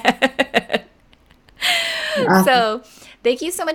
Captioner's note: laughing